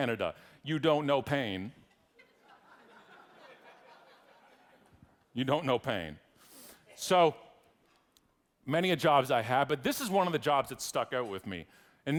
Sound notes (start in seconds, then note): 2.2 audience laughing